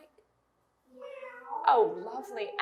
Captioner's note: cat sounds